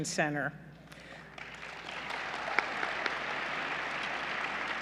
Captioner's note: applause